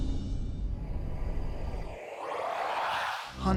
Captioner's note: foreboding music playing; warbles